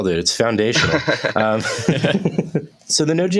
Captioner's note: laughter